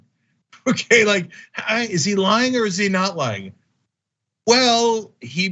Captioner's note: laugh